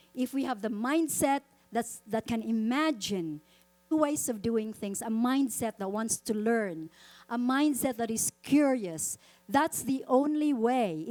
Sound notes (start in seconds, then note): none